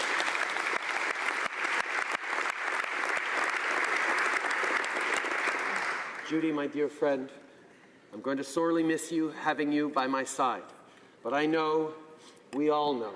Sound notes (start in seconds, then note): 2.3 applause